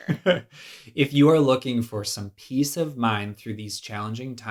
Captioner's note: laughs